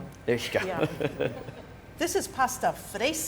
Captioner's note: chuckle